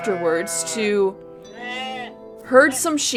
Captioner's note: ram bleating